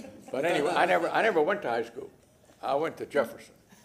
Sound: laughter

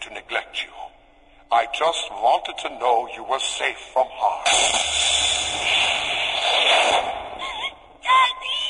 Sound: Hissing gas, Samantha is heard crying

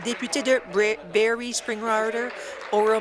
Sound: applause

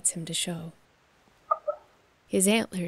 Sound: moose call

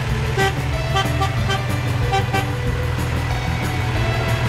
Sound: car horns honk

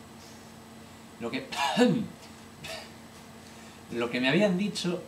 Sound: cough

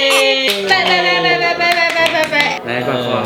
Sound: clapping

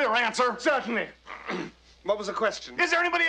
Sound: clears throat

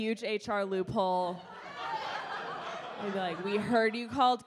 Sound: audience laughs

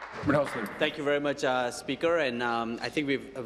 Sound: applause

